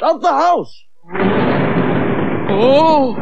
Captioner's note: sound Of Thunder